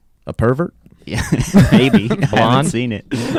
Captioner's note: laughing